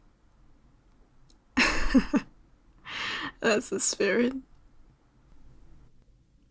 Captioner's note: laugh